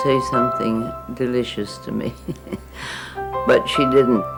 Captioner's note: laughing